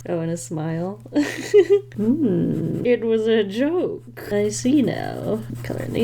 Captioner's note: laughs